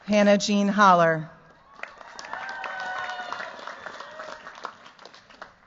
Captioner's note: cheers, applause